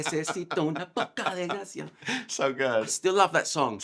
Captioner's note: laughs